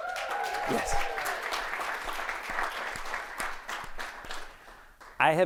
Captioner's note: audience applauding